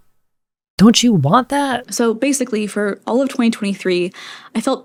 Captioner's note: inhale